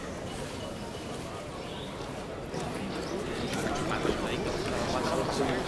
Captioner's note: man speaking native language